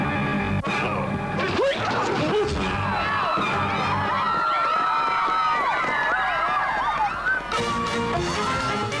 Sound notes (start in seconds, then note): 2.7 screams